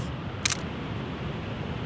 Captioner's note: camera Shutter